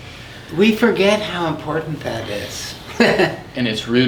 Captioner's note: chuckles